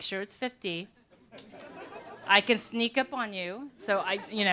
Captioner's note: laughter